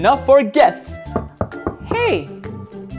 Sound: knocking on door

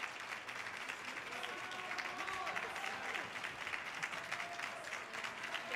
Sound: audience cheering

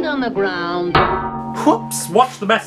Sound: clang

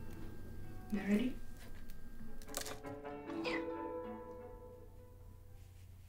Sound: speaking foreign language

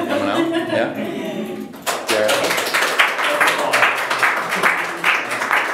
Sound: audience clapping

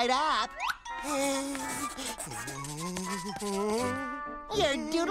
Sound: humming

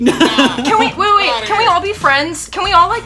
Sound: laughs

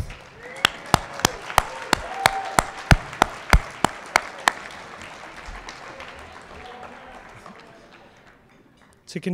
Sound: cheering and Applause

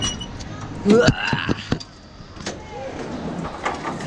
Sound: groans

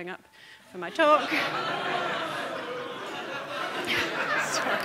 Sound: audience laughing

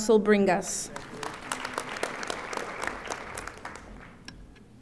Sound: audience applauding

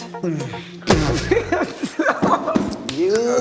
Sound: Gal laughs

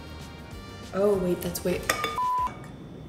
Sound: beep

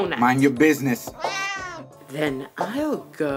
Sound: cat meows

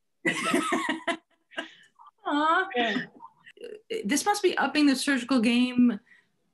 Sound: laughing

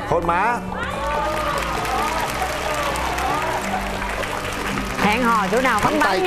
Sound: clapping hands

